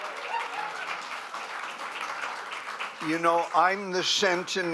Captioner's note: applause